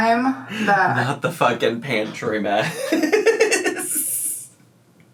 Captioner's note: laughs